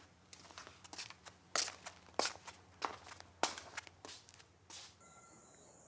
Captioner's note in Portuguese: chinelos arrastando